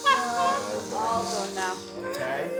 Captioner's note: laughing